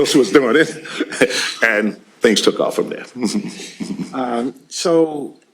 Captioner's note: chuckles